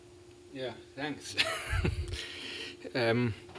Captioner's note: chuckles